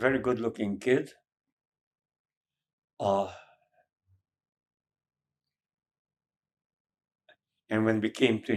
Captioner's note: pauses 6 seconds